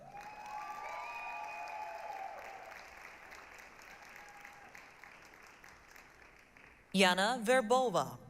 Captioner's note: applause, cheering